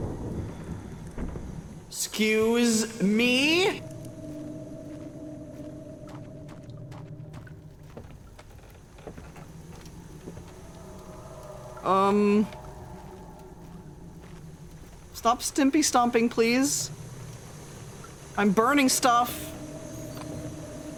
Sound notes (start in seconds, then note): 0.3 Daniel breathing; 7.9 footsteps